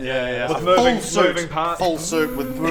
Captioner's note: pffzzzzzz